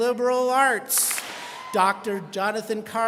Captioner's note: students clap